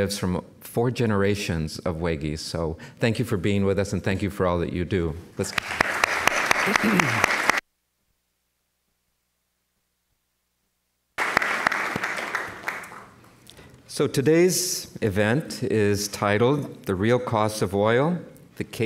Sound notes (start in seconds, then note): 5.4 applause; 7.3 mic cuts out; 11.1 applause